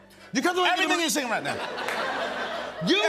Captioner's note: laughter